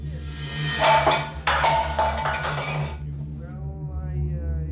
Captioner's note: can falls